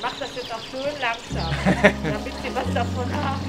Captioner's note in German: lacht